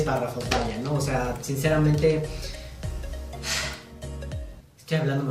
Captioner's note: sigh; sarcastic